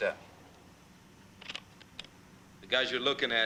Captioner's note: slide projector clicking